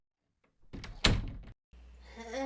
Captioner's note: the sound of a door intensifying